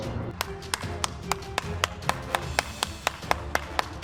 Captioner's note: applause